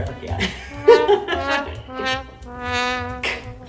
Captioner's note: nervous laughter